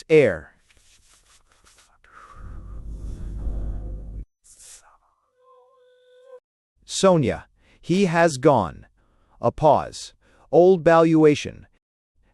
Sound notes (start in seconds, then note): 5.9 A pause